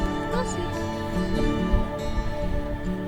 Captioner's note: laughing